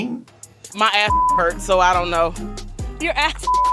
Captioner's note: beep